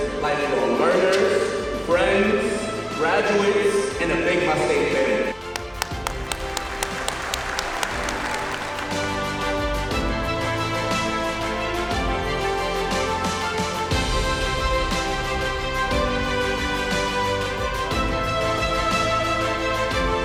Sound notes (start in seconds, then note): 7.7 clapping; 9.7 upbeat music